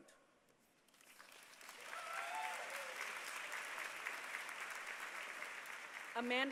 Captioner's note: applause